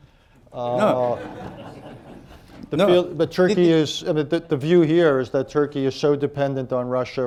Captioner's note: laughter